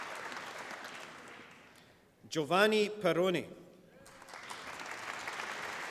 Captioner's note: applause